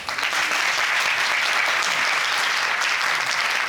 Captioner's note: audience applauding